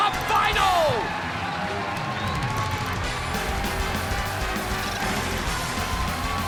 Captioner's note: crowd cheering; upbeat alternative music